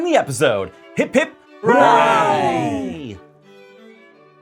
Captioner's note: hooray!